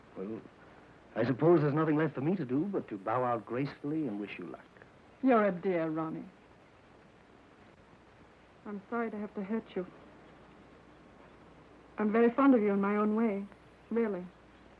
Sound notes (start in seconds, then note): none